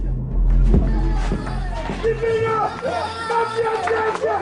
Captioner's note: child crying